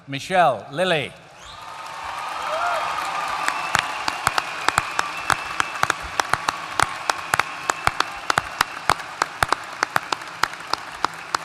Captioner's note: applause